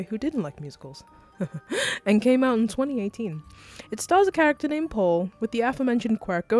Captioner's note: chuckles